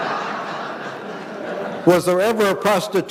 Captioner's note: audience laughing